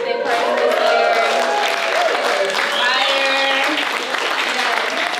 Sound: audience cheers

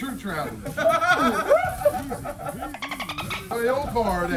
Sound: laugh

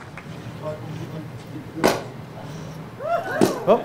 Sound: applause; champagne cork pop

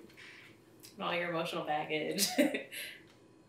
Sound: chuckles

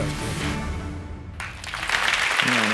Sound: applause

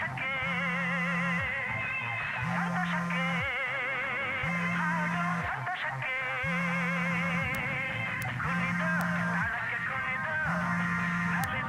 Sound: phone ringing

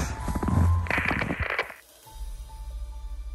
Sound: static crackles

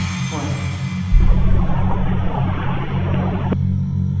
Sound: static hissing

